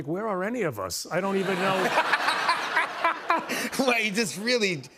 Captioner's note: laughter